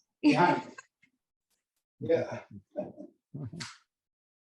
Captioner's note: all laughing